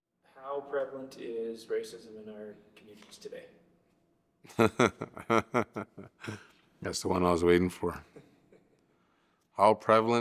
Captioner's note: chuckles